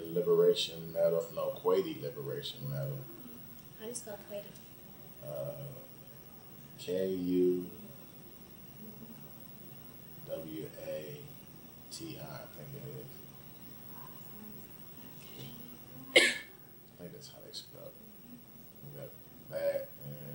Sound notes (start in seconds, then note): 8.0 coughs